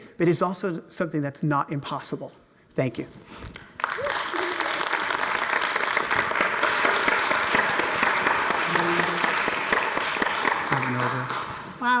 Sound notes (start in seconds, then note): 3.6 audience applauds